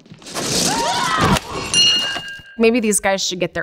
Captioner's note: both yelp